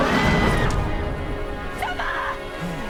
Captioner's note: screams